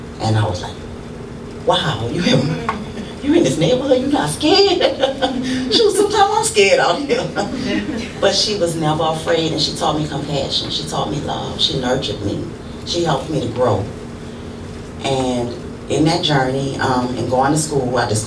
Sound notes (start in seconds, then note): 5.3 laughs